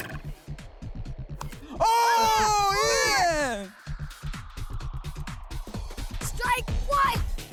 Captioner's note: ball hits bat